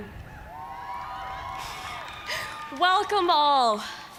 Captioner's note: cheers and applause